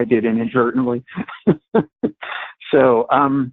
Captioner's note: laughs